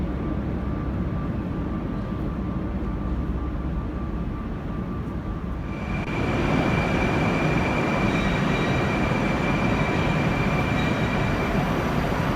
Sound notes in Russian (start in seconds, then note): 6.3 прибытие поезда на станцию